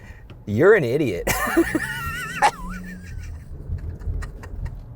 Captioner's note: laughs